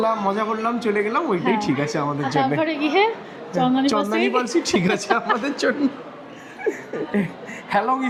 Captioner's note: loud laughter